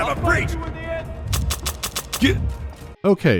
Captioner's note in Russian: щелчки пустого магазина